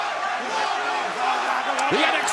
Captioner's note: fans chanting